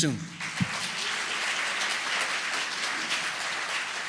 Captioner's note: applause